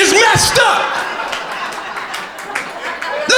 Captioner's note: crowd laughter